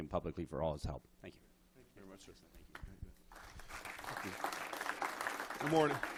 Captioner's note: applause